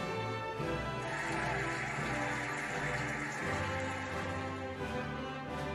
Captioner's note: cheering and applauding